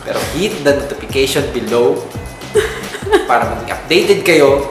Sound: giggles

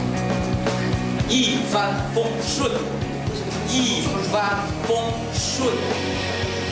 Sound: saying it patiently

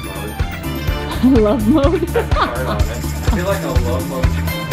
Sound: laughter

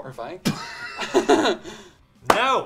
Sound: laughing

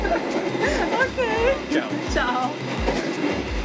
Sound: laughs; in Portuguese

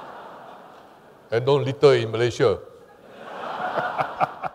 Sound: laughter; laughter

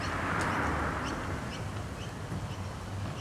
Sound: car drives past

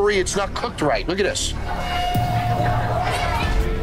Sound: foreboding zing; suspenseful music

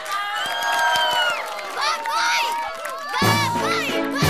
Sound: cheering

